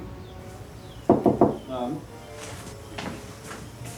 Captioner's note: knocks